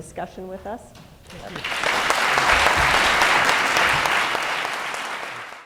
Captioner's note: applause